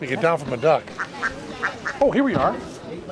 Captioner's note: ducks quacking